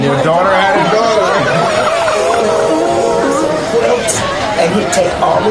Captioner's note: laughter